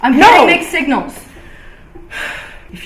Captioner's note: sighs